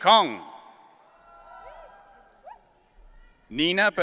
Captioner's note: audience cheering